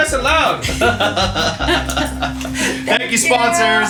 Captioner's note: laughter